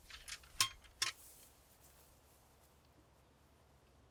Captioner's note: stake clinking